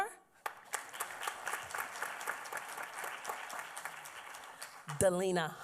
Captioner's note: applause